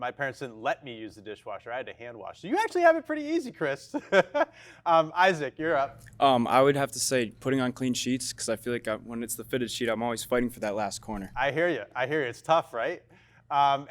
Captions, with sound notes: my parents didn't let me use the dishwasher. I had to hand wash. So you actually have it pretty easy, Chris. (laughs) Isaac, you're up. - I would have to say putting on clean sheets 'cause I feel like when it's the fitted sheet, I'm always fighting for that last corner. - I hear you, I hear you. It's tough, right?